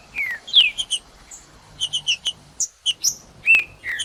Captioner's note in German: trinca ferro cantando; trinca ferro cantando